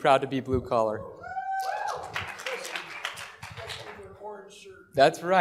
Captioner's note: applause